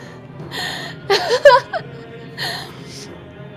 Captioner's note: laughing